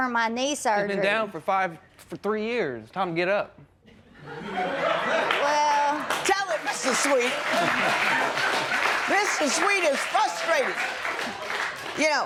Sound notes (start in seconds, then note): 4.2 laughter and applause